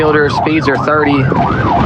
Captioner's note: sirirenens wawaililing